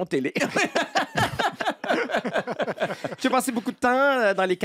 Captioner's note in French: rires